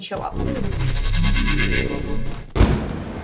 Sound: SFX: Time travel noise

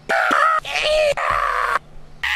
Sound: mating call

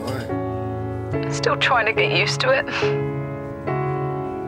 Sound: Ava on phone

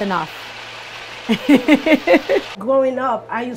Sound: laughs

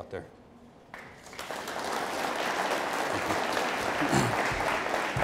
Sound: audience applauding

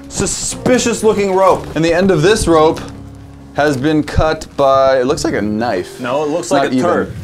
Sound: insert fart noise

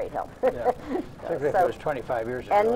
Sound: laughs

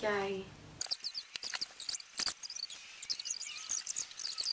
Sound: tape screeching

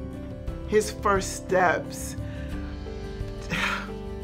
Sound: sighs

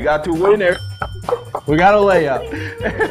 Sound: bell sounds

